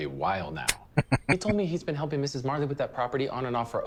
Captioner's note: chuckling